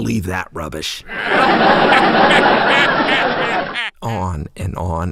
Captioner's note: sound of mocking laughter